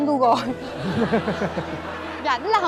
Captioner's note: laughter